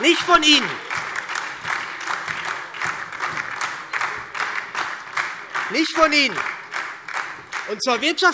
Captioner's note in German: Beifall SPD und DIE LINKE